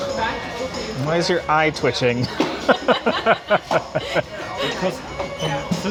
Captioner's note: laugh